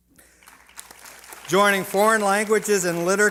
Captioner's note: applause